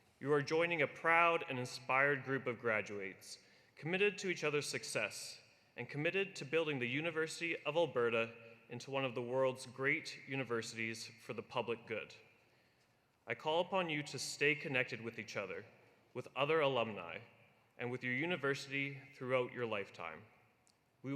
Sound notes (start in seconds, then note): none